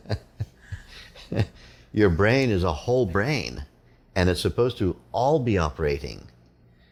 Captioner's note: laughter